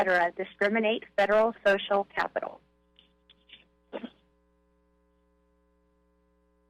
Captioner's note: silence